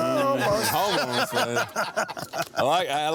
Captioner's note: crowd laughing